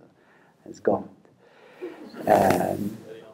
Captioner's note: laughter